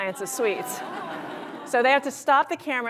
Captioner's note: laughter